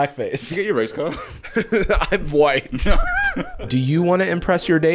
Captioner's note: laughing